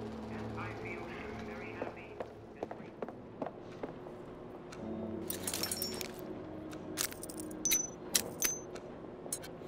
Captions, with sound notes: - I feel very happy. (metal clanking)